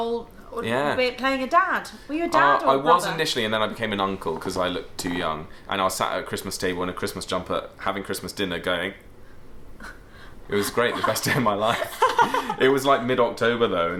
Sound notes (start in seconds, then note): 12.1 both laugh